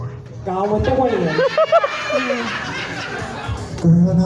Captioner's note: audience cackles